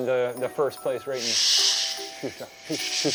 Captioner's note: shushing